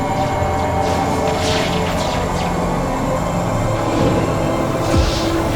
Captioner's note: electricity crackling